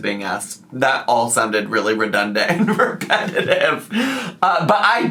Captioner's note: laughs